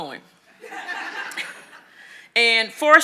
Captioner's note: audience laughing